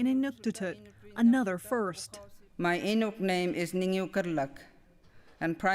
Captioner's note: speaking inuktitut